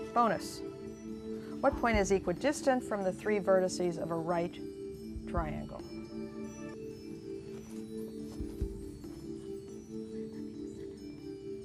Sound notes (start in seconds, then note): 8.8 whispering